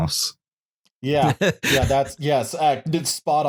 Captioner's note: laughs